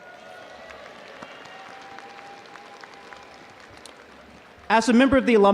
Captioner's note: audience applauding